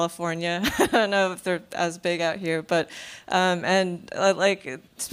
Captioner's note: laughs